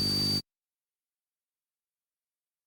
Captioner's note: high-pitched buzzing